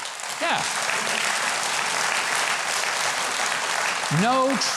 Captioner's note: audience clapping